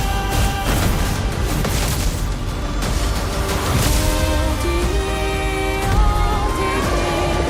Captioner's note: thunderous combat